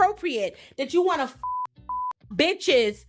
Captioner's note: beep